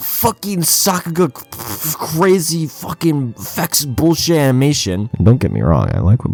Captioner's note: aggressive spitting